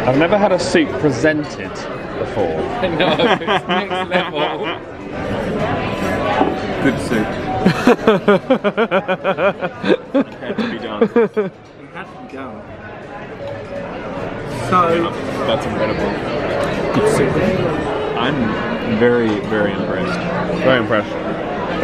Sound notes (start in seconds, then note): 2.9 server laughing; 7.6 laughs